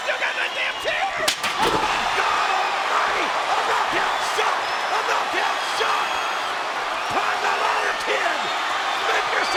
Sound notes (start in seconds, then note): 1.3 chair smacks; 1.3 crowd cheering